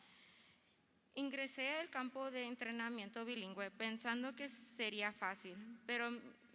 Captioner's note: speaking in foreign language